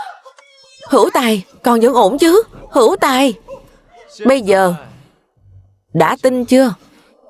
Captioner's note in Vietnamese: tiếng cười